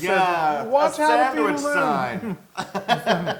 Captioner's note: laugh